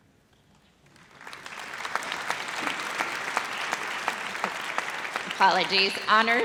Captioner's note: audience applauds